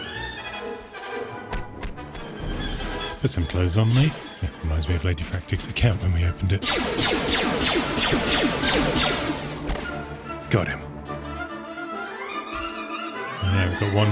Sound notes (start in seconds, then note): 6.5 gunshots; 13.4 upbeat music